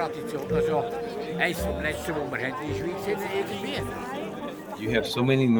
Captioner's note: speaking foreign language